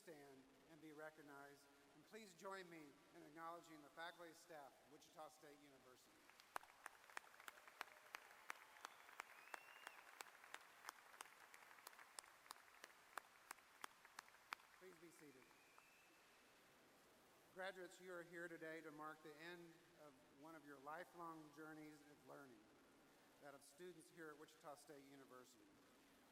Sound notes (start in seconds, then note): 11.9 applause